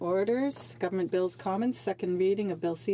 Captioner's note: speaking French